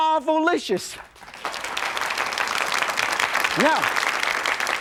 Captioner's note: audience claps